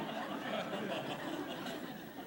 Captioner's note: laughter